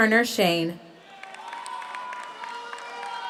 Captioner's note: audience cheers; audience applauds